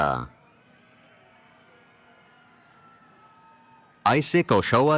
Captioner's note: cheering